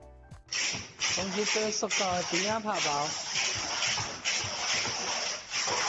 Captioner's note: man speaking foreign language